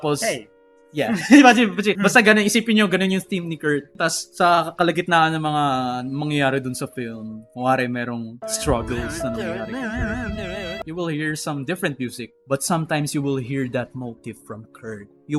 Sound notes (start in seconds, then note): 1.1 laughs